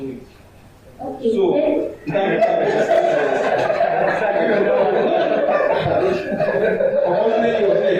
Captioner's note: laughs